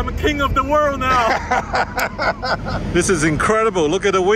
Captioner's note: laughing